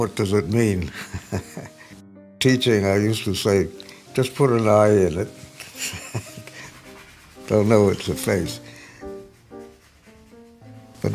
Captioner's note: chuckles